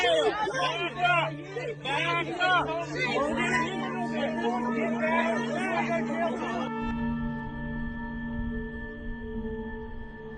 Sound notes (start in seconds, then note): 3.1 officers and onlookers clamoring; 6.8 somber music continues